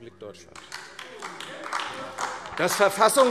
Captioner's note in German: Beifall AfD - Widerspruch CDU und BÜNDNIS 90/DIE GRÜNEN